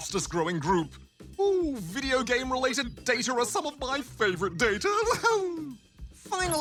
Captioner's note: laughs